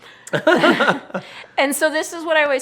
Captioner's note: laughing